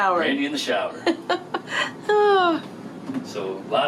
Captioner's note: laughs